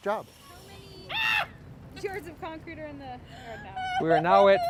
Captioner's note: yelps